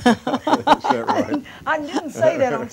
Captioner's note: laughter